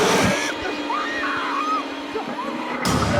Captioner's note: growling; screaming